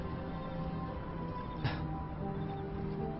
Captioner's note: laughs